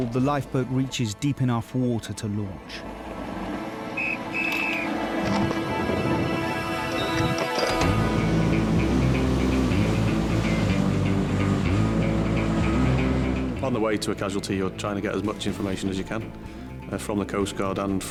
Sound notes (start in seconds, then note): 3.9 whistle blows; 7.6 suspenseful music continues